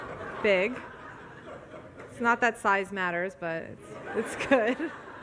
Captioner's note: audience laughs; laughs